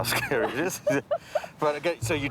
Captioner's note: laughing